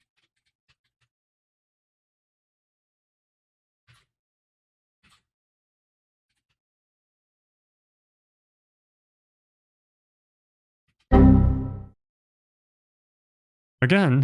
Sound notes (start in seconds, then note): 11.1 computer error sound